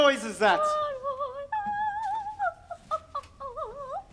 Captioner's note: Ophelia hums